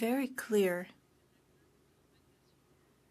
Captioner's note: speaking french